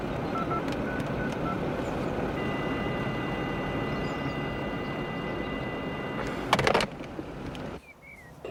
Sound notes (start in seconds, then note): 2.4 faulty tone